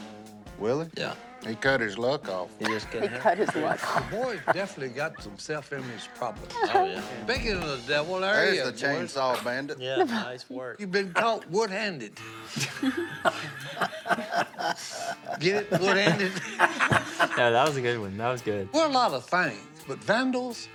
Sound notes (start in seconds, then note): 12.2 Willie chuckling